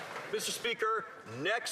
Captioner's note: some Applause